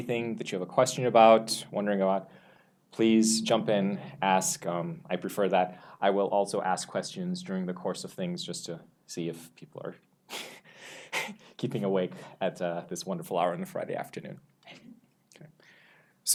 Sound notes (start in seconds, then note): 10.2 laughs